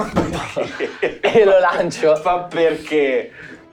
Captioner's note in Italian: Risata